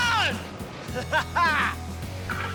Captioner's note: screams; laughs